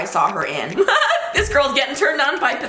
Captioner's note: laughs